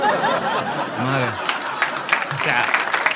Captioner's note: laugther and aplausse